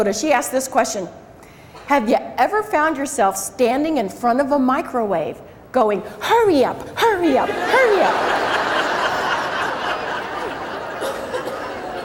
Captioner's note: crowd laughs